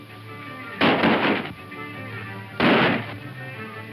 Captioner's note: gunshots